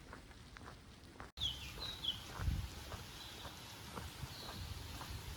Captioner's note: birdsong and gentle rainfall